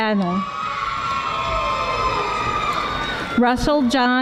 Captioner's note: audience screaming